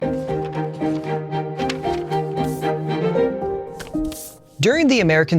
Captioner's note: papers shuffling; upbeat music